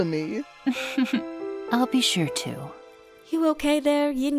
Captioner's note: chuckles